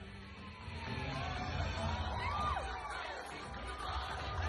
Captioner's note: audience cheering